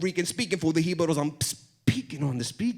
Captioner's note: foreign language